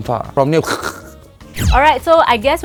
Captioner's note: clearghh